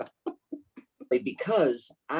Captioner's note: laughing